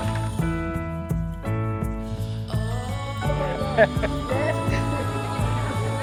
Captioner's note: clapping; inspirational music; people laughing